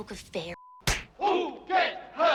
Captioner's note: smack